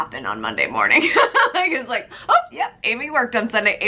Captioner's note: laughs